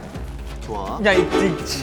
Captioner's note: flutters